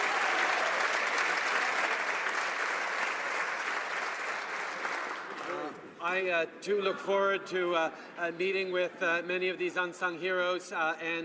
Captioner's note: applause